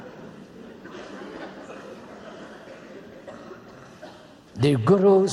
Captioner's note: laughter